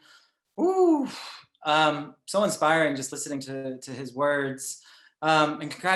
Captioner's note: exhales